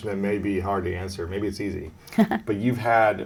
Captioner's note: Esther chuckles